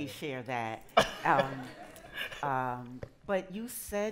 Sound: laughter

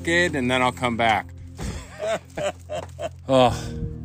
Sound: laugh

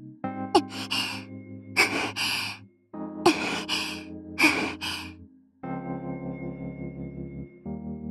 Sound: panting

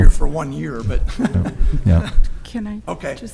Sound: laughs

